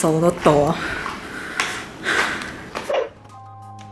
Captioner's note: pant